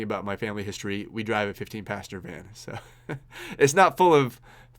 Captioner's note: laughs